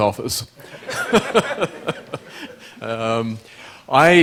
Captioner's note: laughter